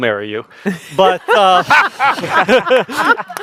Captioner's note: laughing